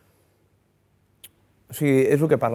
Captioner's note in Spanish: none